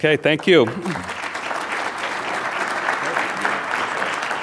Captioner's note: audience applauds